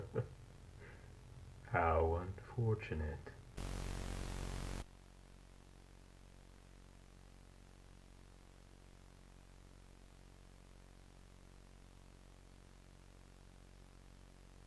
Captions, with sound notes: [Laughs] How unfortunate.